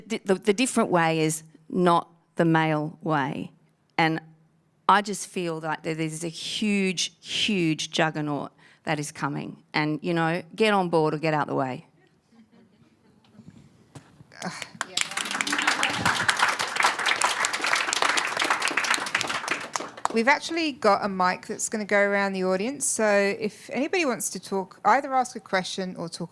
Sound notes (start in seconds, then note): 14.4 applause